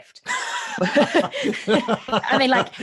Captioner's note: laughs